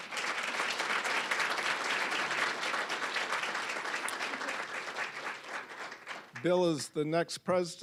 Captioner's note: applause